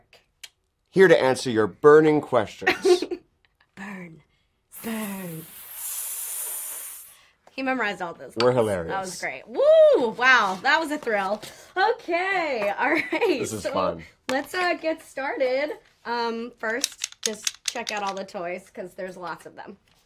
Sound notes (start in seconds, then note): 2.6 she laughs; 4.7 both make hissing sounds